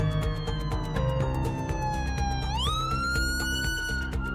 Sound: sirens wail

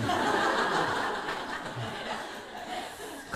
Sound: audience laughs

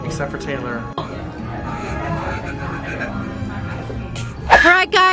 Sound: gasping

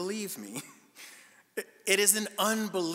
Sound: chuckling incredulously

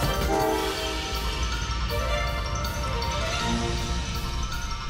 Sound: train horn blows; upbeat music

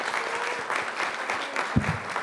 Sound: applause

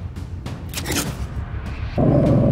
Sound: swoosh; growling

